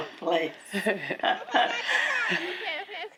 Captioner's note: both laughing